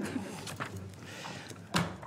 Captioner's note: laughter